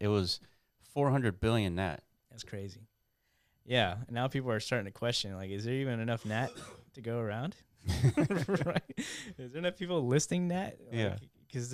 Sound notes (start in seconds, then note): 7.9 laughing